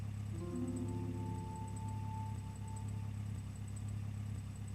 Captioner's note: engine running idle